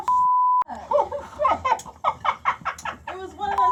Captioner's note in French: rires